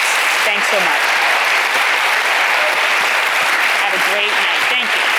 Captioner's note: audience applauding